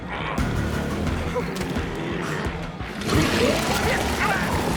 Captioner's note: Mose whimpers; Mose shouts